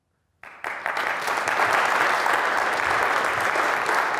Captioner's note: audience claps